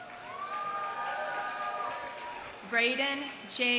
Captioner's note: audience cheering; audience applauding